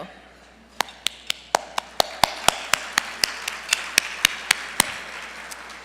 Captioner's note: applause